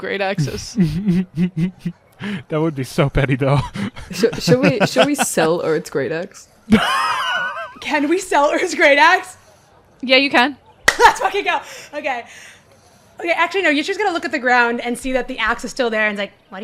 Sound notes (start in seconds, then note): 0.4 snickers; 3.5 laughs; 7.0 wheezes; 10.8 claps